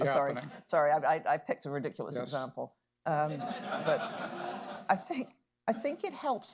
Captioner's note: laughter